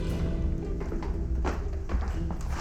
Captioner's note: footsteps